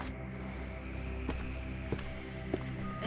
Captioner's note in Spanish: Pasos de John acercándose